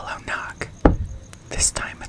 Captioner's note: one knock